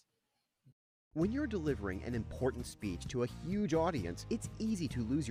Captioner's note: voiceover